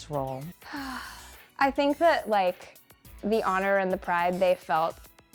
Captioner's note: sighs